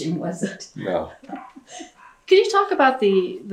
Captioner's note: laughs